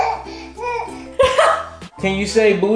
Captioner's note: baby laughing; laughing